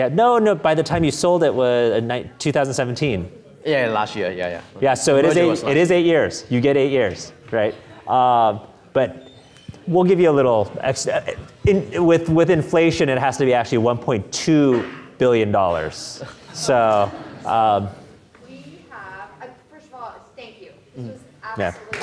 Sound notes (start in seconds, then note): 16.2 audience murmuring